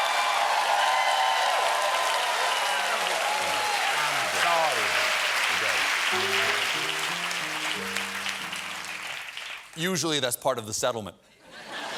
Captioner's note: cheers and applause